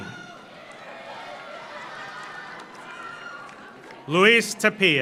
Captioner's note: audience cheers; audience applauds